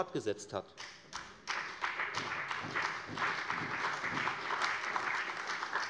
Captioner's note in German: Beifall bei der FDP und der CDU